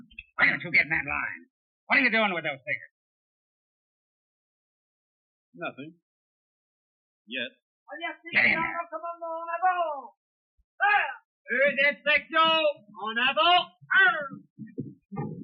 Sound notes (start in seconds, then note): 7.9 officer shouting command in French; 11.5 officer shouts command in French